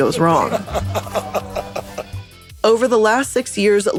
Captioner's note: laughing